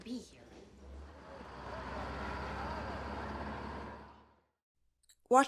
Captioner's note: bus drives